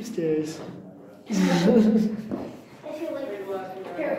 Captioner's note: laughter